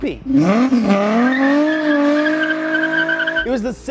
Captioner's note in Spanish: Motor Revolucionado